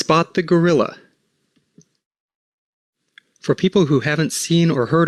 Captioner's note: silence